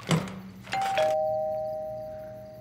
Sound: door bell ringing

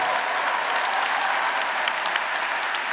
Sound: graduates cheering; graduates, audience, and faculty applauding

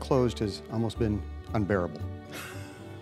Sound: laughter

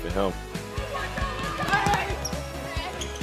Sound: crowd noise and screaming; crowd noise

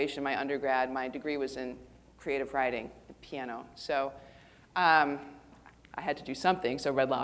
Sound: none

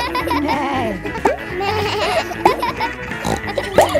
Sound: bleats; neighs; snorts

